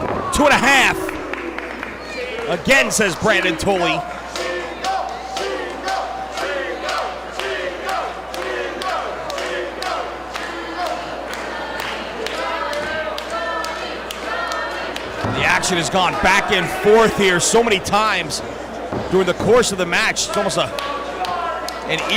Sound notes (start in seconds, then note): 5.7 applause